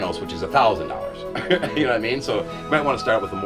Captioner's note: laughs